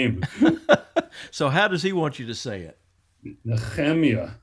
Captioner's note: laughs